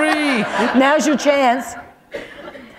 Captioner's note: laughter